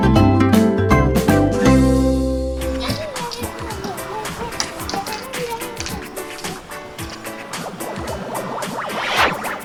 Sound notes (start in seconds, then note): 4.1 child humming